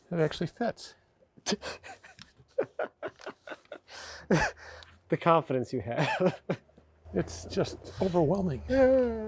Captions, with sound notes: - That actually fits. (speaker laughing) - The confidence you have. - It's just overwhelming.